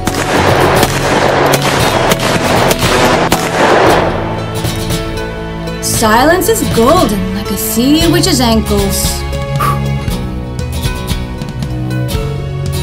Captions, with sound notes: (gun popping) - Silence is golden like a sea witch's ankles. (puffs) (acoustic music)